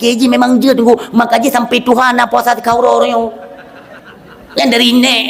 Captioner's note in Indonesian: tertawa